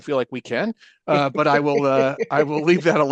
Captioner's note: laughs